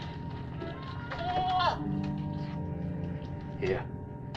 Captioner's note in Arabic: نباح الماعز